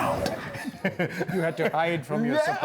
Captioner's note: laughter